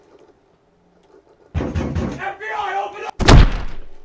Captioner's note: door pounding; heavy footsteps